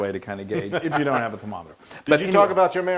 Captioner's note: laugh